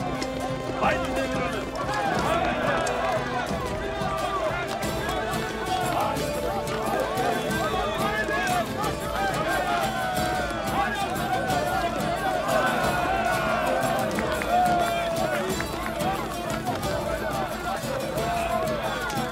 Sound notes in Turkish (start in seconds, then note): 1.6 Tezahürat sesleri; 10.6 Tezahürat sesleri; 16.8 Müzik devam ediyor